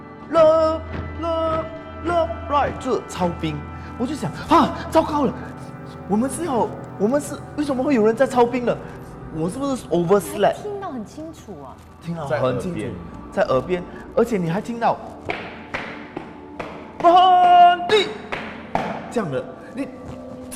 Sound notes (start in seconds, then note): 14.9 marching sound